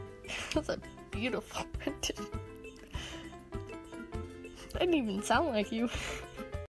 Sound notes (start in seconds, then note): 0.2 laugh; 2.8 inhale